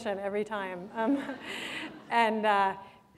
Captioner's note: laughter